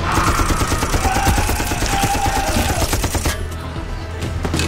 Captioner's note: grunting; gun firing; Jim screaming; thuds